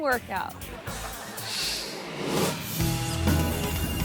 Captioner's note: crowd member laughs; screen swooshes; mid-tempo instrumental music